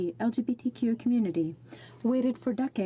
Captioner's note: speaking French